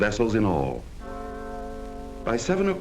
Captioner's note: bell ringing